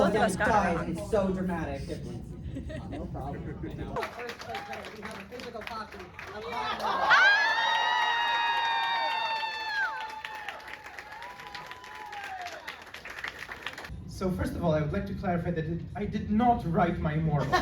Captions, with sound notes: He falls down and dies and It's so dramatic.. For the first place winner we have a physical copy of My Immortal (crowd cheers) So, first of all, I would like to clarify that I did not write My Immortal No!